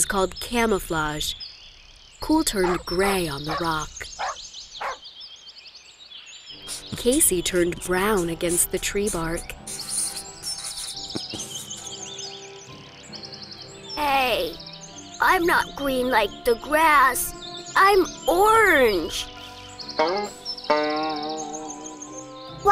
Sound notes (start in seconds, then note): 4.8 dog barking; 5.0 birds chirping; 10.3 rustling sound; 11.9 background music